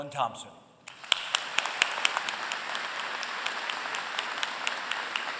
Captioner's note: applause